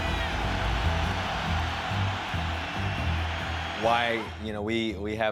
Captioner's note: fans cheering